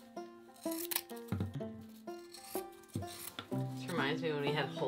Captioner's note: scissors snipping